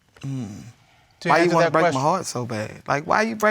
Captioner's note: groans